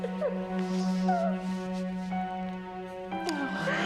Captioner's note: crying